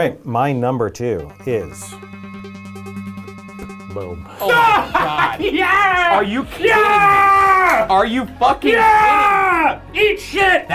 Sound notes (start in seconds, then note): 4.2 digital chime